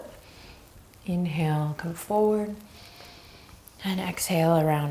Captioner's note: deep breaths